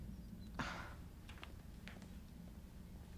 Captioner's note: scoffs